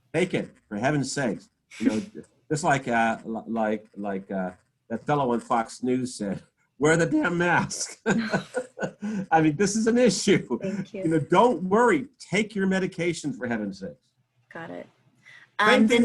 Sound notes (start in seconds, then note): 7.2 laughs